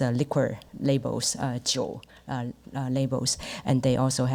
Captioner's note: speaks Mandarin